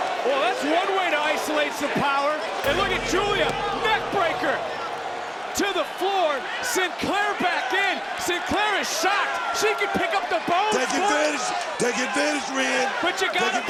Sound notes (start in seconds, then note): 2.6 gong rings